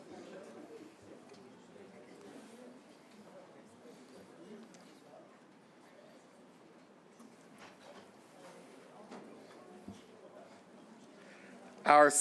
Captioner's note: silence